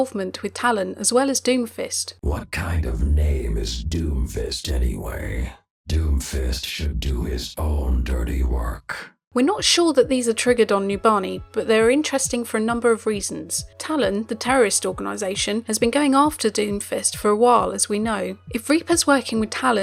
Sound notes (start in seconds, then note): 9.4 voiceover